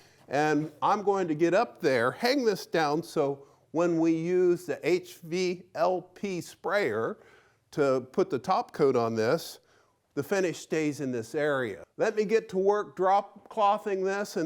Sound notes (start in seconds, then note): none